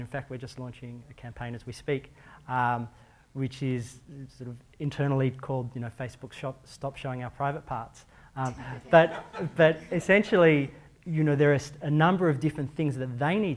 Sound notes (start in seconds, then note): 8.5 laughter